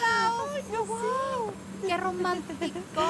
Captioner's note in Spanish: Exclamaciones